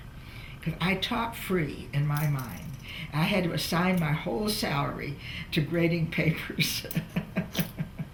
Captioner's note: laughs